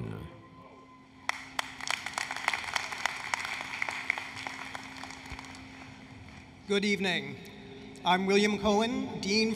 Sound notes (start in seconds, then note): 1.2 applause, Cheering